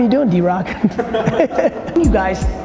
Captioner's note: laughs